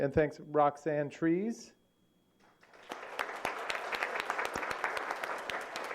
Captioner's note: applause